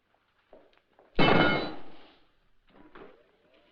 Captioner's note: metal clangs